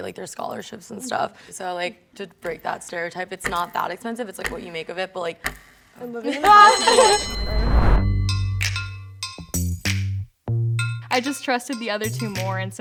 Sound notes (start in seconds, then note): 6.4 bell rings